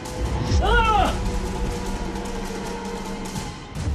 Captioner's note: screams and gasps